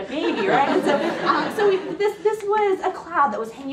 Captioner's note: laughing